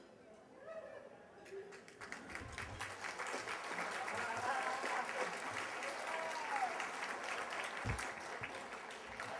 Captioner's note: applause